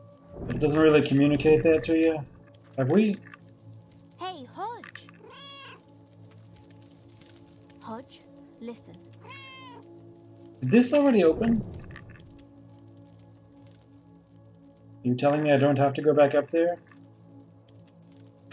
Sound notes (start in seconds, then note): 5.1 Hodge meows; 9.2 Hodge meows